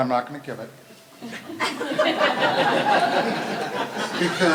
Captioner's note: laughter